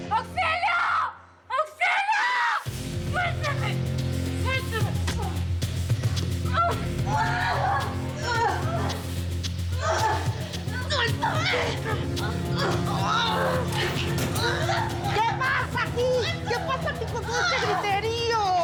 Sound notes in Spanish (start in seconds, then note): 7.1 golpes; 7.4 gritos y exclamaciones; 13.9 ruidos al abrir la reja